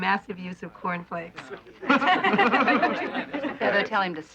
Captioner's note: laughing